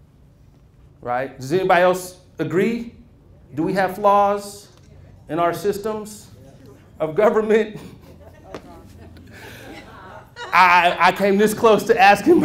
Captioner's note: murmurs